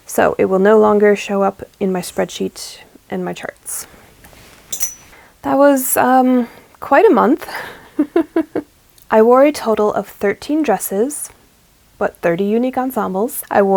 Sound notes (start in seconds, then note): 8.0 laughs